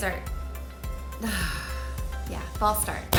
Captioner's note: sighing